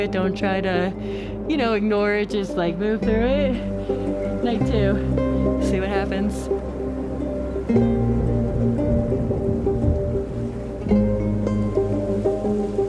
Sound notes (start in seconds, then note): 8.0 thunder crashing; 9.8 melancholic music continues